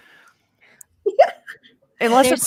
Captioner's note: giggles